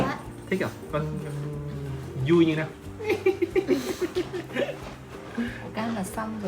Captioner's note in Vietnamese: tiếng cười